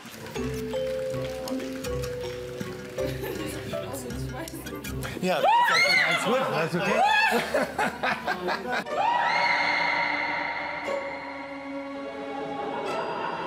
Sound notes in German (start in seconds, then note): 0.1 Abwartende Musik; 6.2 Alle lachen; 11.6 Mysteriöse Musik